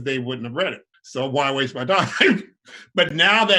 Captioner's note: laughs